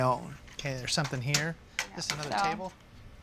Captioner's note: clacking